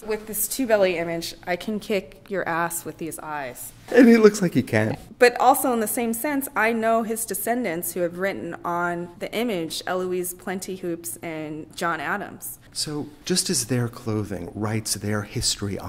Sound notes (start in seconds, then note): 3.9 laughs